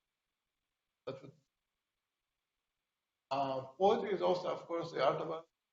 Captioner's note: distorted speaking